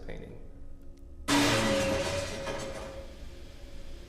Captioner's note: item crashes